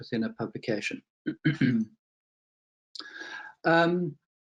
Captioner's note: clears throat